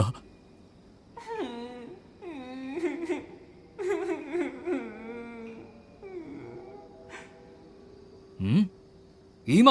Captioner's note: sobbing